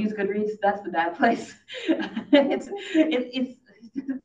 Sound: laughs

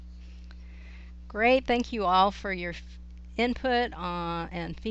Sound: voiceover

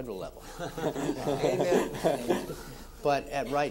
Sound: all laughing

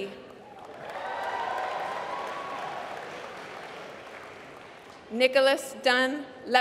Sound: applause

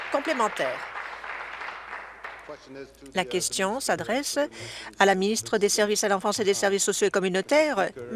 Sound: applause

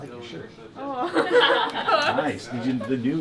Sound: laughs

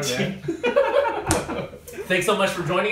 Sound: laughs

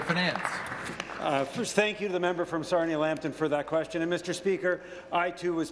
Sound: applause

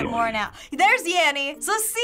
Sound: gasping

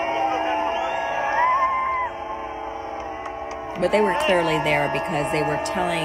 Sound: applause & Boos

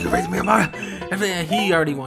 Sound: stutters

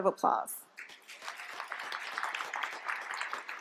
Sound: applause

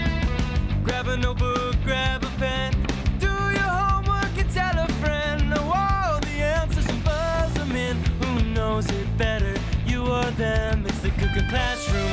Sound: bell rings

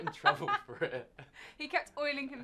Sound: both laugh

